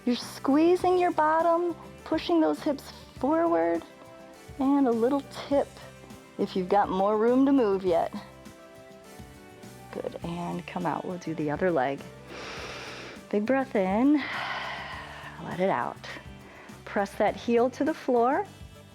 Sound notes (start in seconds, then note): 12.2 inhales; 14.8 exhales